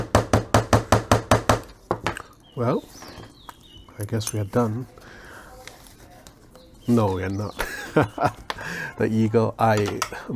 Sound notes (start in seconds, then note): 7.4 laughs